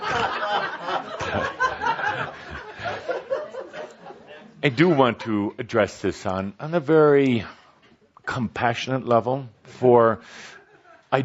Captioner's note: more laughter